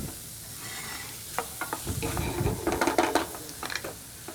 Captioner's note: sizzling sound